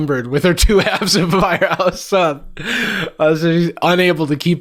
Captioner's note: laughing